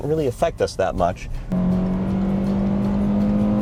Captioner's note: engine running